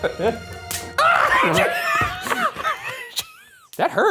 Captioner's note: both laughing